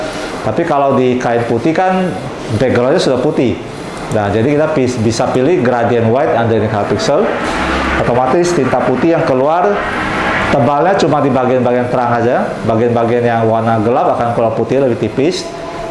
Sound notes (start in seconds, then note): 0.0 printer machine sound; 8.4 motorcycle noise; 12.6 printer machine sound